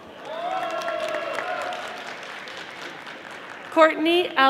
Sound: audience applauding

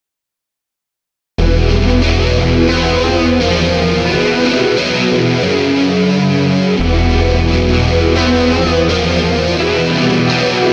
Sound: sound of haunted valley

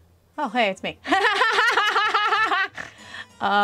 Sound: laughing

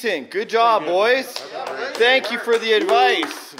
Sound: crew applauding

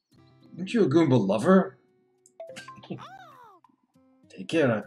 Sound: chuckles

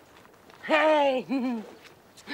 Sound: Sandra laughs

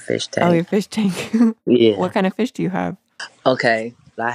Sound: laughs

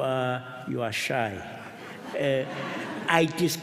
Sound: laughter

